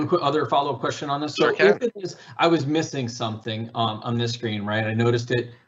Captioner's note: mumbles